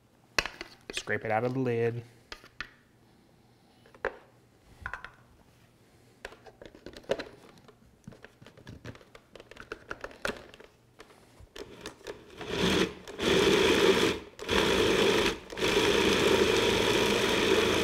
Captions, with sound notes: scrape it out of the lid [mixer pulsing]